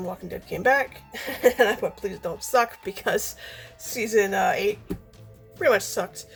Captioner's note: laughing